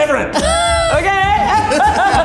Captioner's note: laughs; all laugh